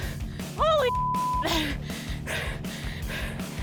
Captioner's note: shouts; beep